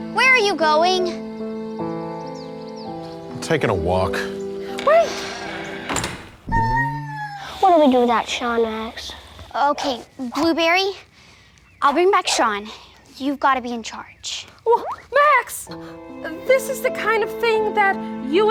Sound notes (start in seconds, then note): 6.4 puppy wining; 15.6 somber piano music plays